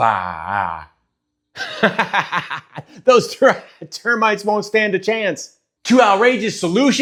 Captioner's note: laughing